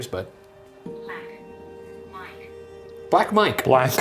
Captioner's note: automated Voice